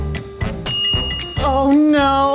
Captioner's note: timer dinging